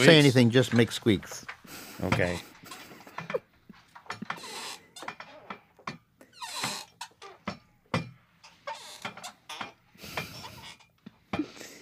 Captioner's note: squeaking